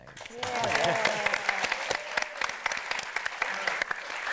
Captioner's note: audience applauding